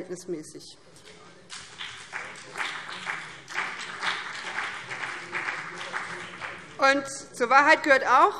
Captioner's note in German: Beifall BÜNDNIS 90/DIE GRÜNEN